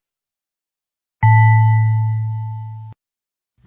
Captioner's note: ding